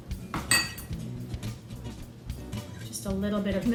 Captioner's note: glass clinking